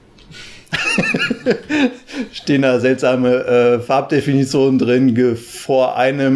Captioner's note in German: lacht